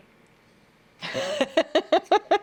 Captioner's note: both laughing